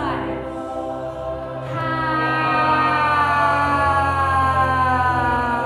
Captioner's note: all inhale and exhale slowly